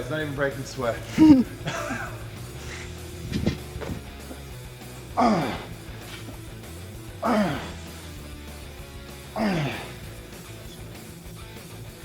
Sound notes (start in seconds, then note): 4.9 Sheamus grunts; 4.9 upbeat music continues